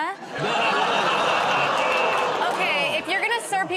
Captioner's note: laughter